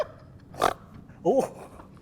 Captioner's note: snort